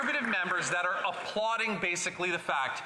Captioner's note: applause